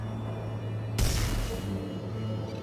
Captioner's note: suspenseful music; gunshots